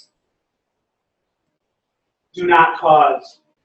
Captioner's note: pause